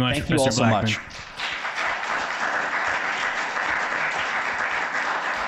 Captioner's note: audience applauds